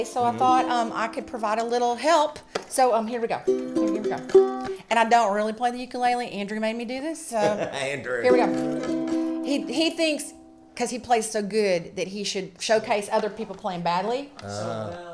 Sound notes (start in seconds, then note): 7.3 laughs